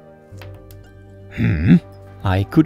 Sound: hrrrmm

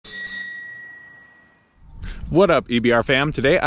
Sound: bell ringing

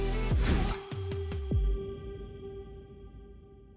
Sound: logo whooshes

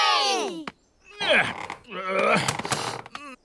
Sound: grunts

